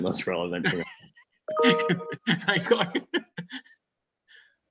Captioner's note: laughs